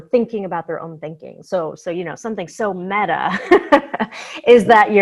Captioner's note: laughs